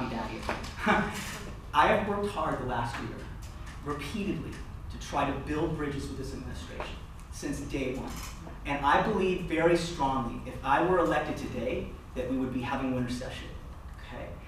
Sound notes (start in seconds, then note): 0.7 laughter